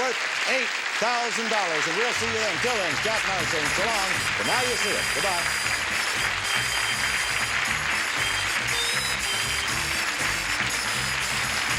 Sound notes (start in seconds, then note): 7.7 audience applause; 7.7 theme music playing